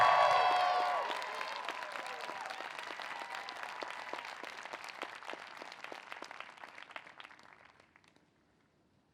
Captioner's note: applause